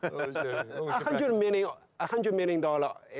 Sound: laughs

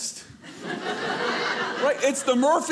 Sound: audience laughing

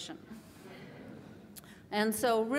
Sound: laughter

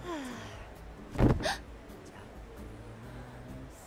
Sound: gasp

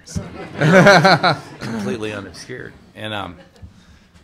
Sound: laughter

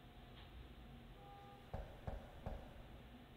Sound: knock knock

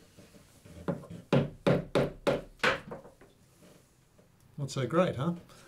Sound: light knocking

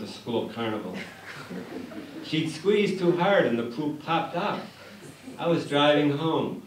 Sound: laughter

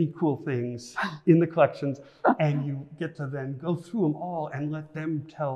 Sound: laughs

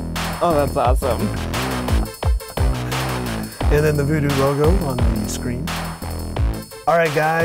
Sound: laughing

